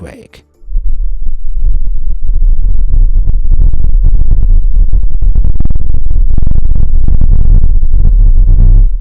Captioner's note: audio plays 16 times slower